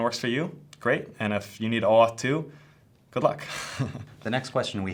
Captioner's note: chuckles